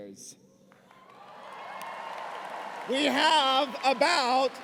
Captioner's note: cheers and applause